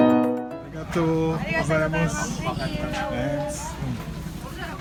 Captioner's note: people chattering